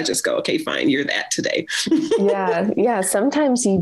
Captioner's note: laughs